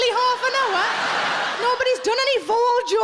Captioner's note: audience laughing